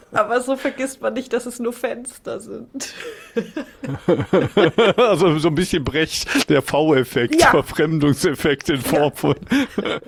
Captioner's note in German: gelächter; gelächter